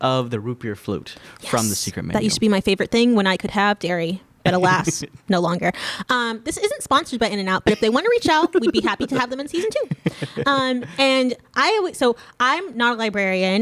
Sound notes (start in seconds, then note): 7.6 laughing